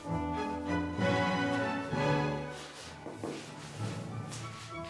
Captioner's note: laces shuffling